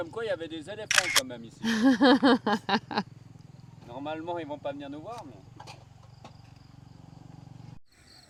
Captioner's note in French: rires